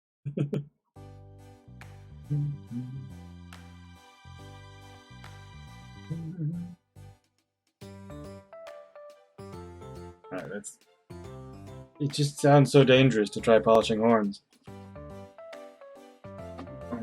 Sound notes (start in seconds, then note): 0.2 chuckles; 2.3 humming along